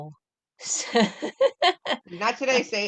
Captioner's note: laughter